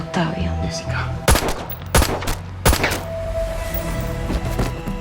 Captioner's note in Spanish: Disparos